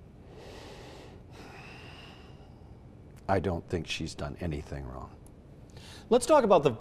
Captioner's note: sighs